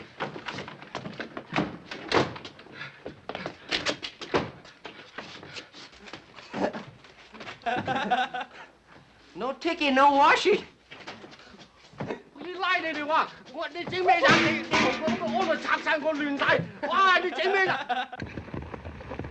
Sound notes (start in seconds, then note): 6.4 laughing; 12.0 yelling in Chinese; 16.6 laughing